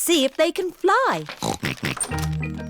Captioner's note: snorting